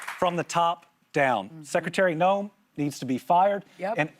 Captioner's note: applause